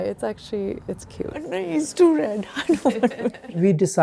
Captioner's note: laughing